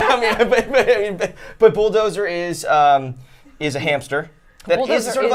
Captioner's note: laughing